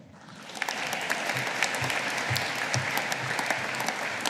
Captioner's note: audience applauding